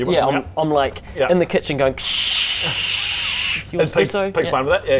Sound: krscsssssssssssssssshh

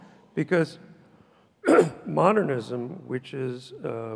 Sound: coughs loudly

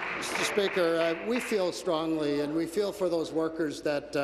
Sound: applause

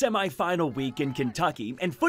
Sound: sounds of football practice

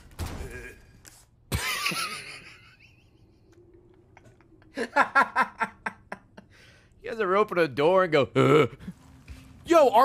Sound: laughs

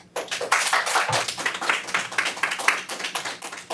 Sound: applause

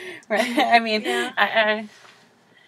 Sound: laugh

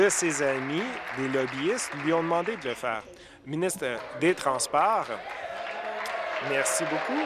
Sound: applause

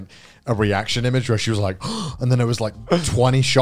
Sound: gasps

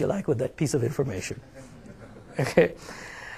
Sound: laughing

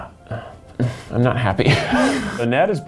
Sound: both laugh

